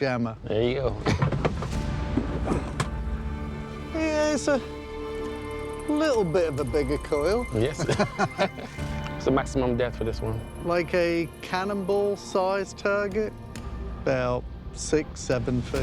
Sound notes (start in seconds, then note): 7.7 laughter